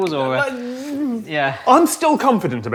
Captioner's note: stammers